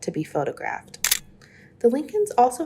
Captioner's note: camera shutter clicks